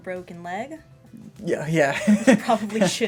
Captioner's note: laughter